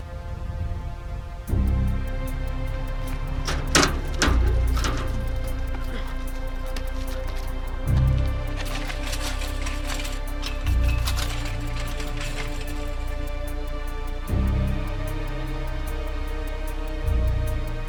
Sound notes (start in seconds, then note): 9.3 man banging on fence